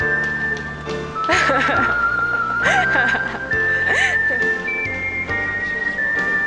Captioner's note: laughs